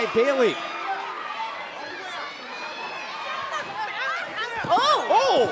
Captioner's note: crowd shouting